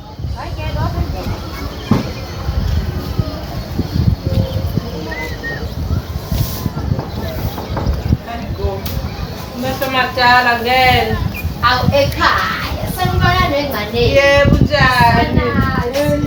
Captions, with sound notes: (Knock) Long time no see, come in. How you doing mother I'm fine and you